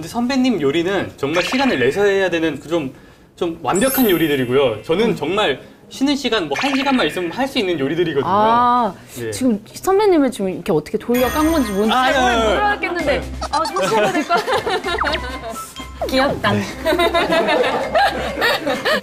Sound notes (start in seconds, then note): 13.4 haha